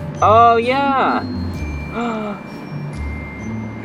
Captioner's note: genuine gasp